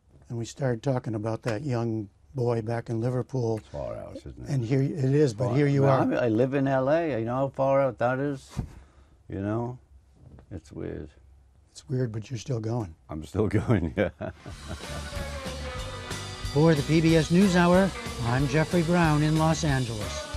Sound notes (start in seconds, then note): 13.5 laughter